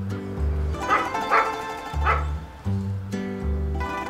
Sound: dogs barking

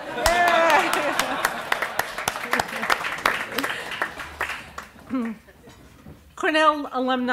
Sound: applause

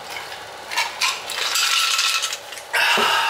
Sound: ice clattering

